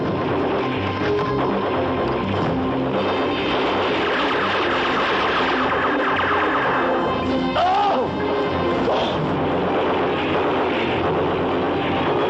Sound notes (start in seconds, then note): 4.2 shouting; 9.4 blast